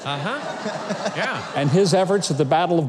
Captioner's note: audience laughing